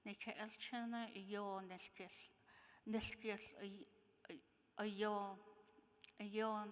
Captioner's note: speaking in foreign language